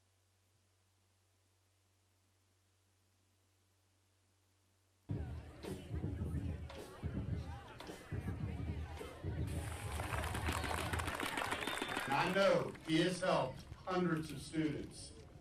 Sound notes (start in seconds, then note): 5.1 drums beating; 5.1 people chattering; 9.5 audience applauding